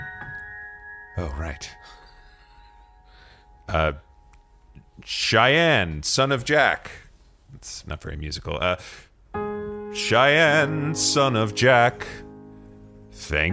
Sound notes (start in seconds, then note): 2.2 calling out; 8.4 singing